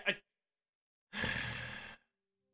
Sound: sighs

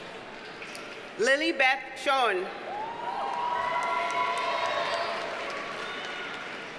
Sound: audience cheers and applauds

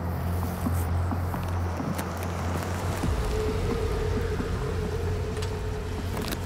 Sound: engine rumbling; light dramatic music

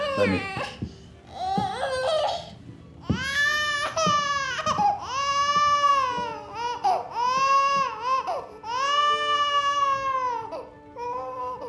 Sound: baby fussing, crying

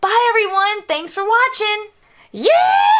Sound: imitates Jessie's voice

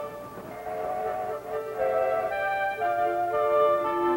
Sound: train whistle blowing; soft upbeat music

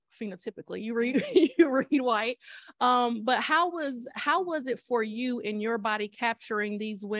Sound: laughter

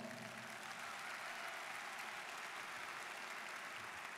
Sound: students applauding

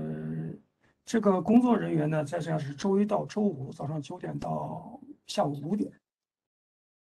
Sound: speaks in Mandarin

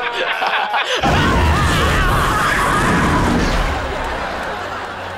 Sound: screaming

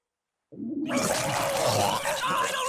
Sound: vomiting

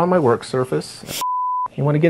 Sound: sniff

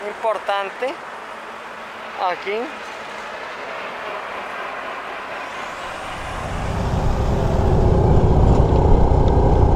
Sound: road noises

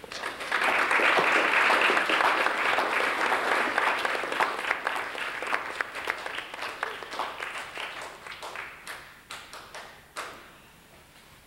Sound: applause

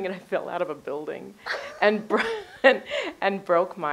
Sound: Relth laughs

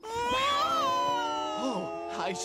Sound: screaming

